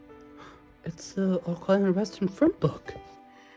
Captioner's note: gasps